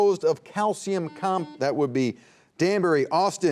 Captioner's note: buzzer beeping